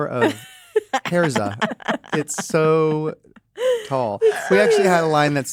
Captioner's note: laugh